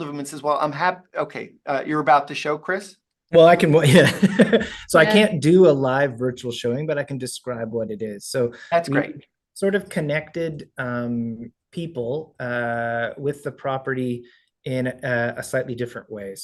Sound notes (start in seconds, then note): 3.8 laughs